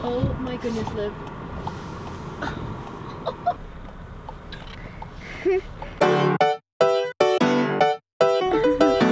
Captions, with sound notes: Oh my goodness Liv. (laughing) - (laughing) (upbeat music)